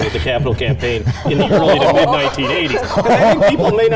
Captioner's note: all laughing